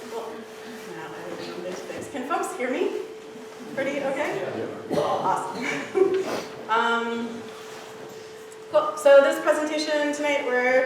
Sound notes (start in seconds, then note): 5.6 laughs